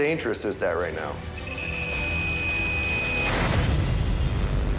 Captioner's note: beeping, tone plays